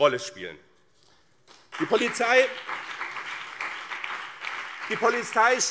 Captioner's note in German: Beifall BÜNDNIS 90/DIE GRÜNEN und CDU